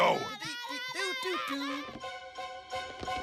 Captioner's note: humming